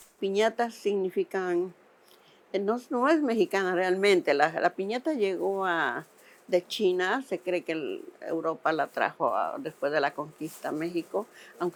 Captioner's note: speaking Spanish